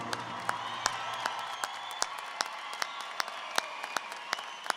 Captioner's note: audience applauding